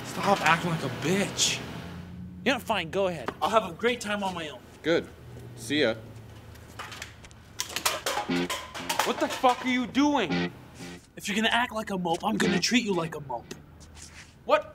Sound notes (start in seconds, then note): 7.6 can clattering